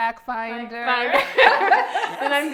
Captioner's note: laughs